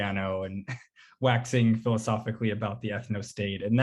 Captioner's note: chuckles